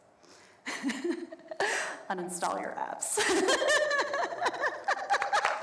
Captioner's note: laughs